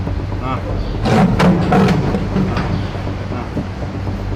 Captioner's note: lion growling